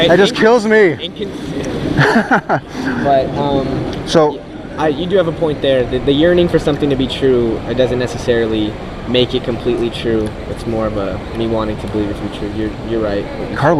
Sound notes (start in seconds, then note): 1.9 laughing